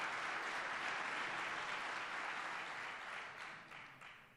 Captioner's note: applause